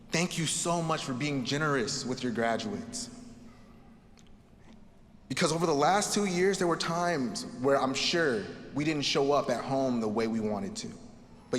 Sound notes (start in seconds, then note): none